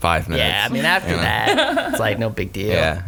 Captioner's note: laughing